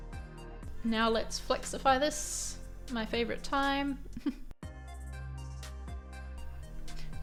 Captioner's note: giggles